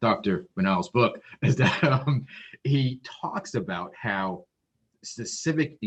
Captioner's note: laughs